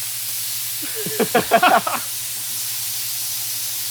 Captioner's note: both laughing